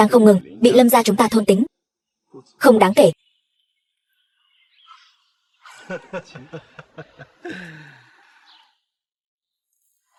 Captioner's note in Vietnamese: Tiếng cười